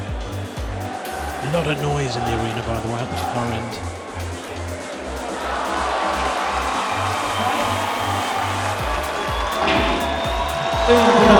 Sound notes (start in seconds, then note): 0.6 funky music; 6.7 audience cheering